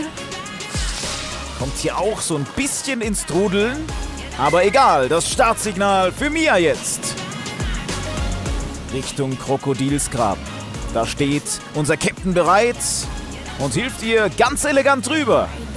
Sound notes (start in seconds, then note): 3.9 Pfiff